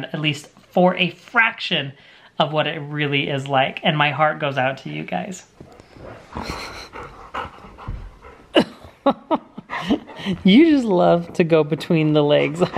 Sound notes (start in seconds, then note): 5.6 dog pants; 8.2 laughs